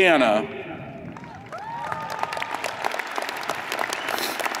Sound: audience applauds

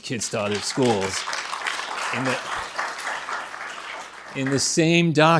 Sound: attendees applauding

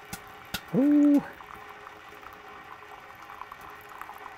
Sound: hot water drizzling

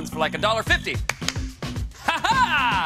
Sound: claps hands twice

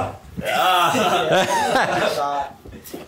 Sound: laughs

